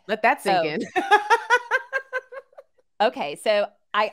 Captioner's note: laughing